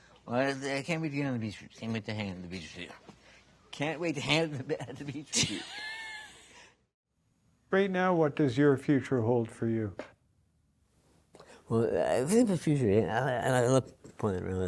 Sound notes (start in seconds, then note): 5.3 laughs